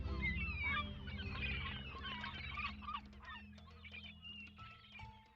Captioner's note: seagulls screeching